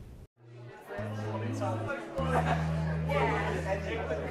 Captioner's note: crowd noise